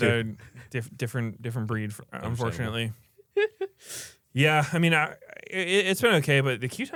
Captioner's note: laughs